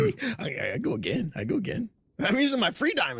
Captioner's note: laughs